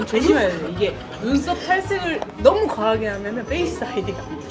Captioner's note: can't stop laughing